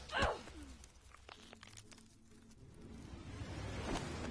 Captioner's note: slimy bones cracking